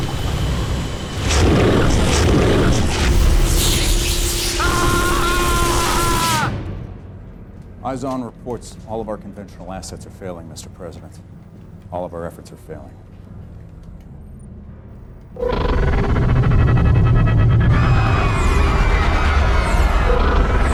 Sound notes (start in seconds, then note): 3.6 zap; 4.3 screaming; 18.0 chaos / screaming